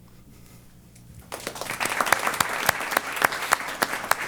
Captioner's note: applause